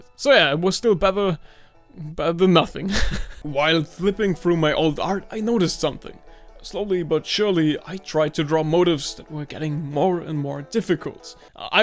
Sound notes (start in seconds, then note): 2.8 chuckles